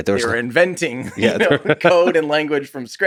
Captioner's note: Tim laughs